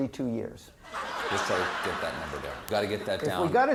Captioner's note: laughter